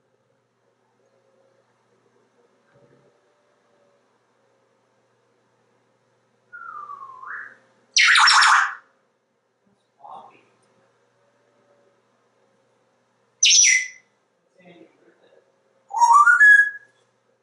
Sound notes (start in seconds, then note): 6.5 Einstein whistling back; 6.5 whistling; 13.2 whistling and singing